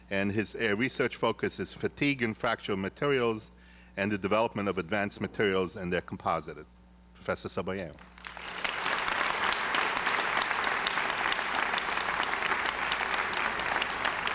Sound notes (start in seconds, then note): 8.0 applause